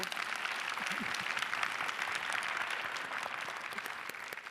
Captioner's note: audience applauds